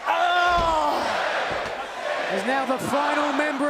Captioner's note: crowd cheering